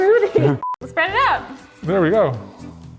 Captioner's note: beep